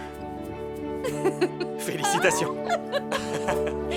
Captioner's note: laughing